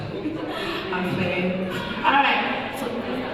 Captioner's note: laughs